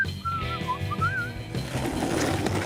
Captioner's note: whistles melodically